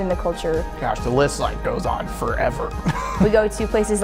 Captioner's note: laughs